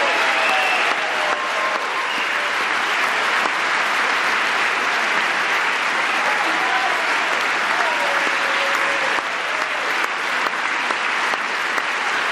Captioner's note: applause